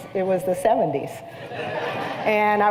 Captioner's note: laughter